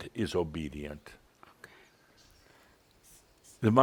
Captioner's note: whispers